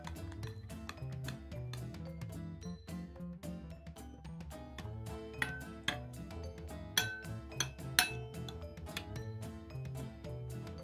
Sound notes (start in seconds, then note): 2.0 clock ticking